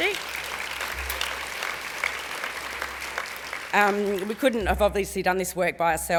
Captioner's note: applause